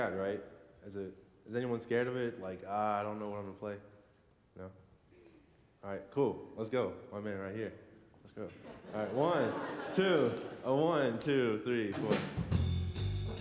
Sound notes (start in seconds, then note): 8.5 laughter